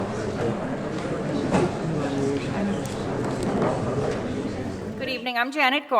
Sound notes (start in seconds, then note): 0.0 audience chattering